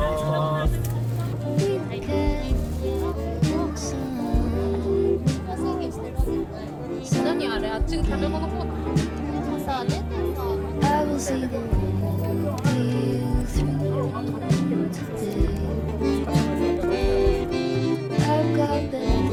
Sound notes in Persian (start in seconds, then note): 8.0 خنده